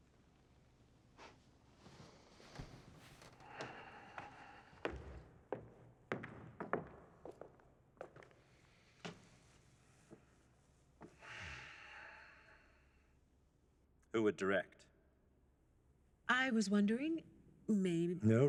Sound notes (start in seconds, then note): 1.3 scoffs; 3.3 exhales deeply; 9.1 inhales, exhales deeply